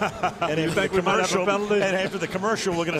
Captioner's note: laughs